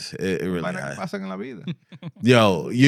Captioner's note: speaking In Foreign Language